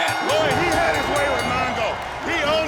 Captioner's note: bell ringing